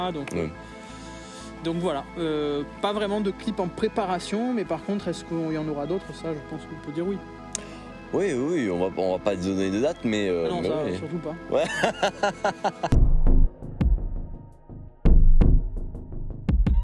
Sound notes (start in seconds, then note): 11.6 rires